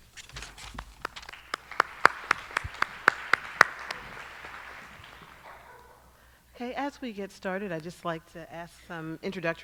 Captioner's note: applause